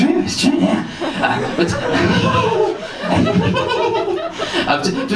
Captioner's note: giggles